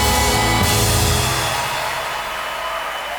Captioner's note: applause